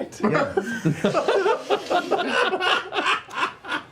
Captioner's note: laughter